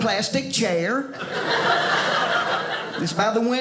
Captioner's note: audience laughing